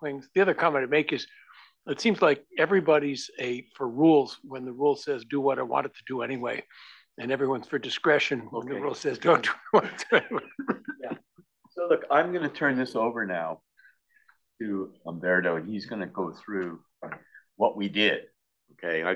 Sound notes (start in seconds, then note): 9.3 laugh